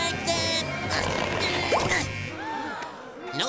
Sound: grunting

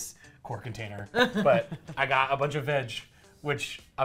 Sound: laughs

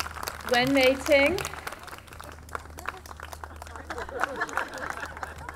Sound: audience clapping; audience laughing

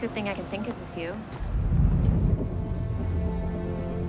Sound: wind rushing; grand orchestral music

